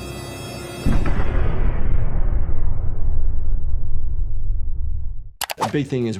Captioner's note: explosion booming